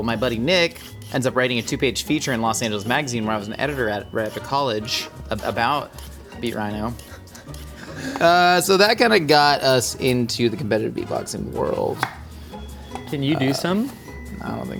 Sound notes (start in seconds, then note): 11.8 knife thudding